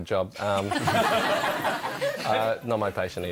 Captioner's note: audience laughs